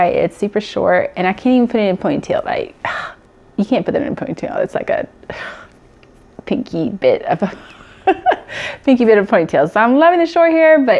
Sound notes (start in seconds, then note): 5.3 sighs; 7.5 laughs